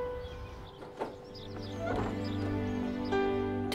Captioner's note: Door opening